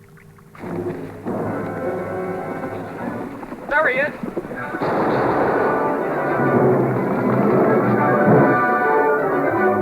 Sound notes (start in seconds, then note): 4.7 gunshots